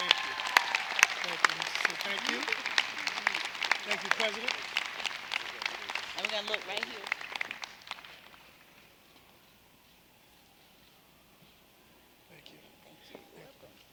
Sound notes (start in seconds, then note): 2.6 applause